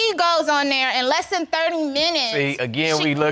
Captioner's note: none